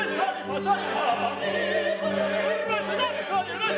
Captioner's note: yelling in Sanskrit